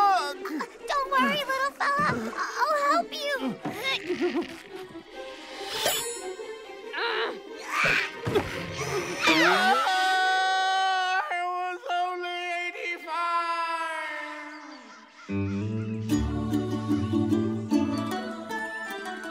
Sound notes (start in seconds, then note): 6.3 grunting; 9.1 screaming